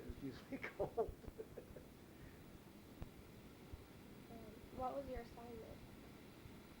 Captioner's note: chuckles